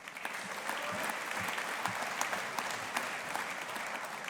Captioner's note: audience applauding